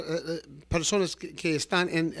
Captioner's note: Hablando ingl\s